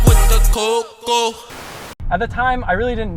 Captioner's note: white noise